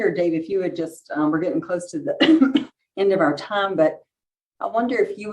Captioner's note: coughs